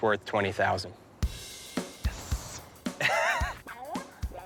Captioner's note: laughs